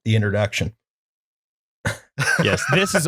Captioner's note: laughter